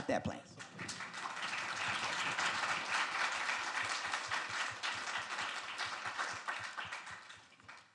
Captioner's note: crowd applauding